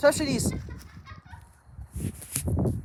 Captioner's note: menacing laughter